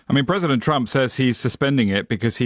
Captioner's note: none